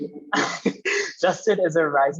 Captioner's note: laughing